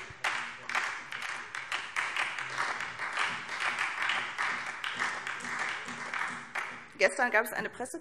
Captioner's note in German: Beifall SPD